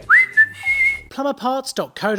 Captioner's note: man whistles